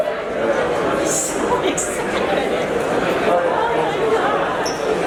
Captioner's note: laughing